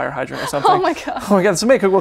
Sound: laughs

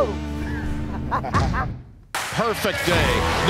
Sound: laughing

